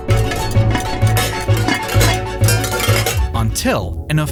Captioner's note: clacking continues; intense music